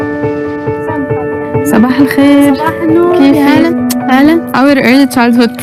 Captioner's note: hopeful music; speaking in foreign language